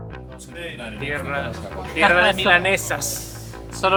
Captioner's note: in spanish